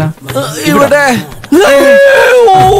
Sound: screams

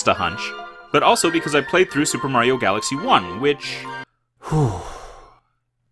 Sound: breath out

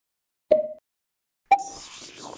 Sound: pong; ping

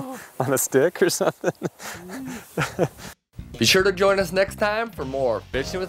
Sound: laughing

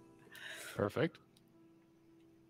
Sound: none

